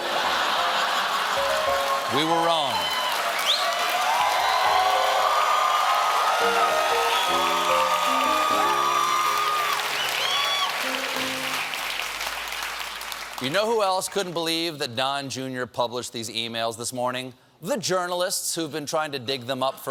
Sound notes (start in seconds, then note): 5.8 cheers and applause